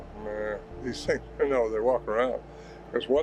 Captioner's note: groans